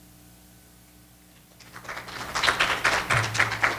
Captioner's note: applause